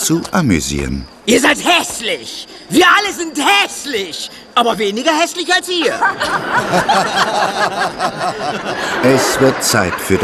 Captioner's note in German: gelächter